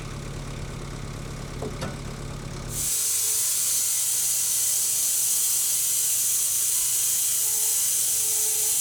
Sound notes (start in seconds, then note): 2.9 electric saw screeching